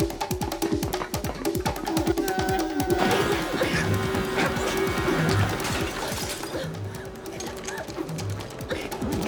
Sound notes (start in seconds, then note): 6.2 glass shattering; 7.9 Chan gasping